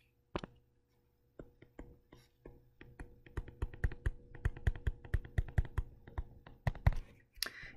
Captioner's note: tapping Sounds